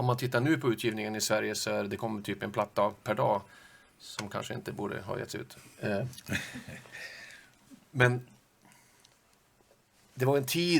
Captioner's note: laugh